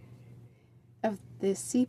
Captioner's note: speaking French